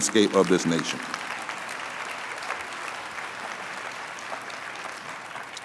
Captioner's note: applause